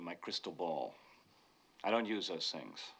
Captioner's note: gasps